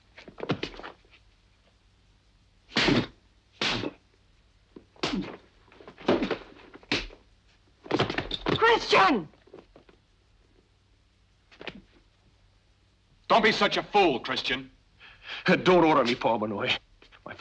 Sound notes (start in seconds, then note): 2.7 hand slapping; 5.8 fist thuds